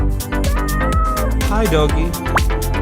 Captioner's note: meow